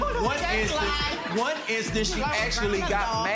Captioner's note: audience laughing